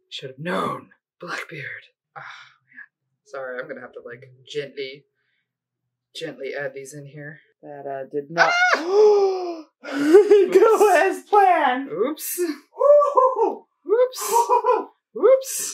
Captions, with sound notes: Should've known! Blackbeard! Sorry. I'm going to have to, like, gently gently add these in here. That did not *AHHH!* *dramatic gasp* go as planned. Oops. Oh, oOpS. OoPs